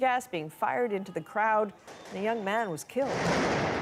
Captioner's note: gunshots